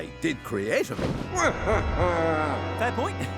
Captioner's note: menacing laughter